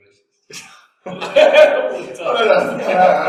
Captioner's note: both laugh